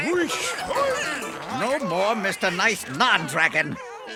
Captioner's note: grunting